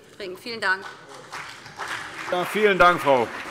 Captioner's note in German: Beifall BÜNDNIS 90/DIE GRÜNEN und CDU